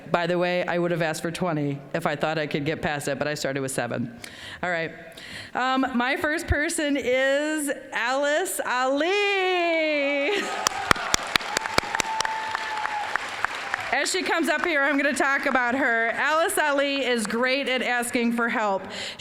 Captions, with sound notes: By the way, I would have asked for 20 if I thought I could get passed that, but I started with seven. All right, my first person is Alice Ali! (applause) As she comes up here, I'm gonna talk about her. Alice Ali is great at asking for help.